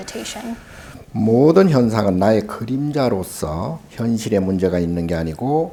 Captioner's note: speaking Korean